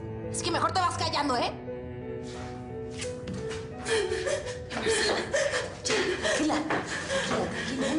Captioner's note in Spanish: Sollozos de Marcela